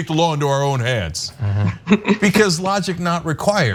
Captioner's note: laugh